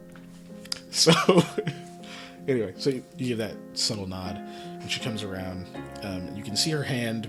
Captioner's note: chuckling